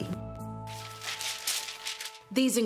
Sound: papers rustling

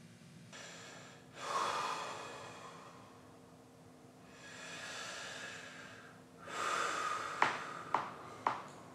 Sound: takes deep breaths

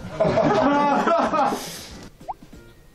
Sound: laughing

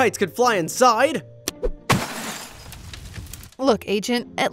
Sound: glass shattering

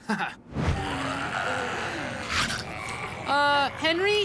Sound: growling

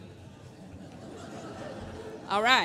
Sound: laughter

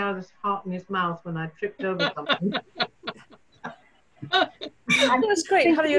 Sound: laughter

